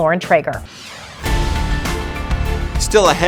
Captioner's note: logo whooshing; upbeat music